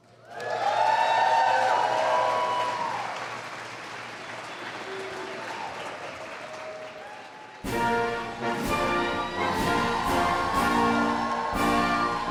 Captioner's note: applause and Music